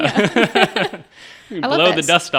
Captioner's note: all laughing